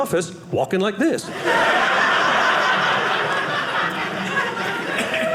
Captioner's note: audience laughing